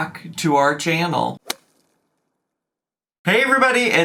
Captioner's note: logo thuds